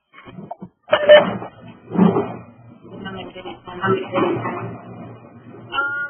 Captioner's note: audio feedback